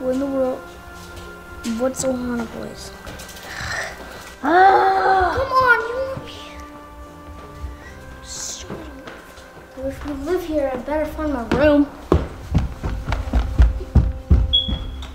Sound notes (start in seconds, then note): 4.0 groaning; 12.5 heavy footsteps